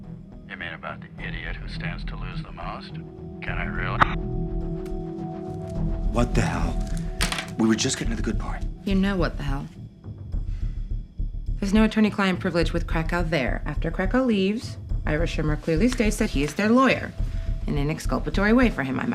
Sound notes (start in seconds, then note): 4.4 recording stops